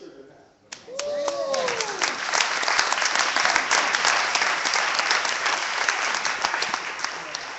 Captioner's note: clapping